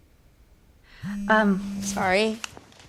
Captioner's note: phone vibrating